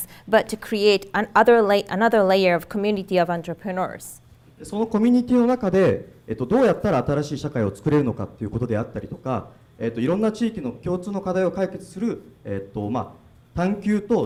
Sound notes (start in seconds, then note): 5.1 speaking foreign language